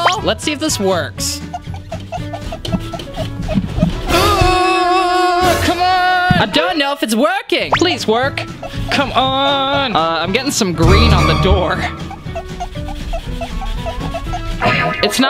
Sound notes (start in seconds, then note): 1.3 squeaking; 4.3 groaning; 12.1 squeaking